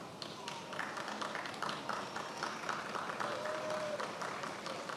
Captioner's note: attendees applauding